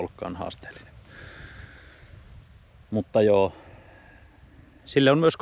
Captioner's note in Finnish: huokaus